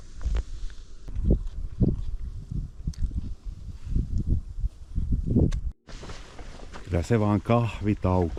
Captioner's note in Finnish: tuulen huminaa